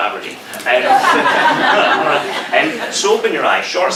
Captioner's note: crowd laughs